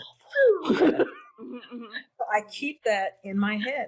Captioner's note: laughing